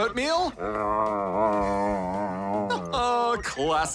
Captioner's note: grumbles; chuckles